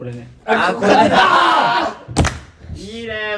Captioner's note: screams in agreement